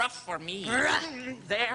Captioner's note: katharina growls